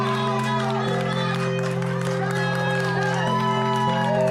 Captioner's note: crowd cheering